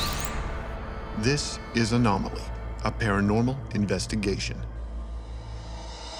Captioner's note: voiceover